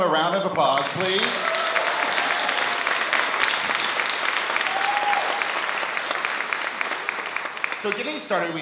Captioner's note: applause